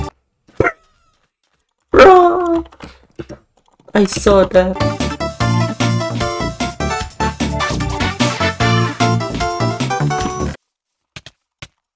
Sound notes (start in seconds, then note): 4.1 mechanical keyboard clacking